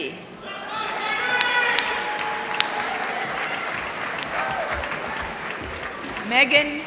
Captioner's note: applause